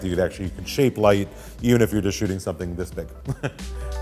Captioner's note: chuckles